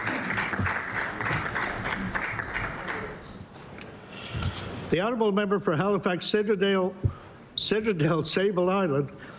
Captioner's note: applause